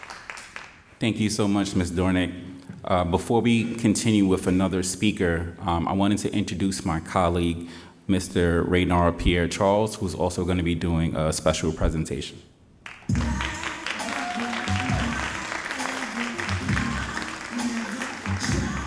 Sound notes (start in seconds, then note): 12.8 all applauding